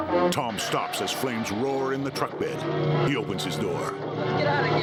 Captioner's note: breaks squealing